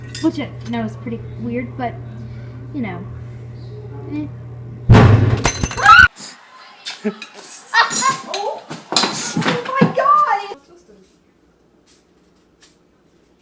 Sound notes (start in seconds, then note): 4.9 loud bang; 5.8 screams; 7.7 boy screams